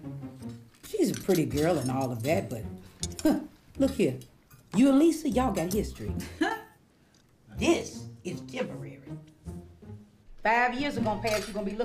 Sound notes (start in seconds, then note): 6.2 laughs